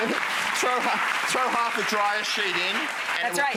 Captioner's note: applause